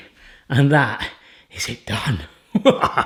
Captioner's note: laughs